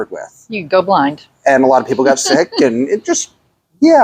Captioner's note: chuckles